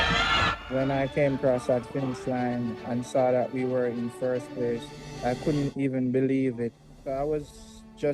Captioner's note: cheers and Applause